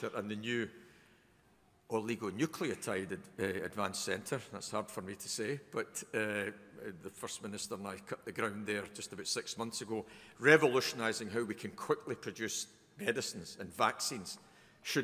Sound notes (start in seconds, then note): none